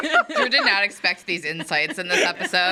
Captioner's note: people laughing